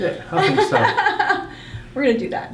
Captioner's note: laughing